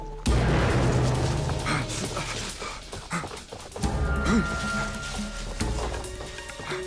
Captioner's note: dramatic ominous music; man gasping